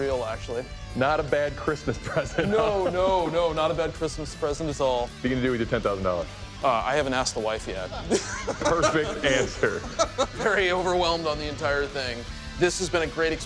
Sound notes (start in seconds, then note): 8.0 laughs